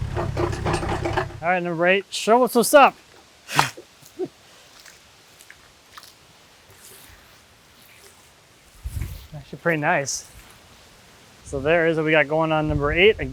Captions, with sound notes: All right, number eight, show us what's up. (water splashes) It's actually pretty nice. So there is what we got going on with umber eight.